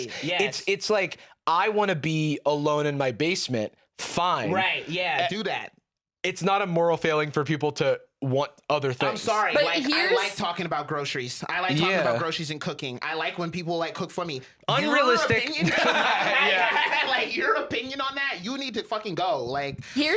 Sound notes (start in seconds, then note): 15.4 laughs